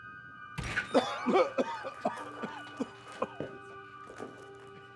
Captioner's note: Darlus coughing